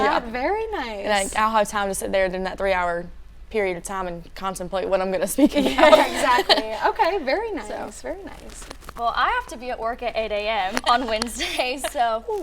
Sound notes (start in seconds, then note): 5.4 laughing